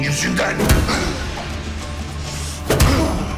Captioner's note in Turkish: Darp sesleri